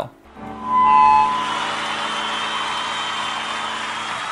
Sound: cheering

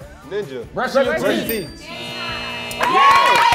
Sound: timer buzzes; bell dings

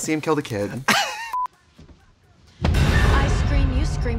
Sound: laughing

